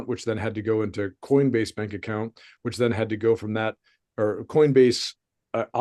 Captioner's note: none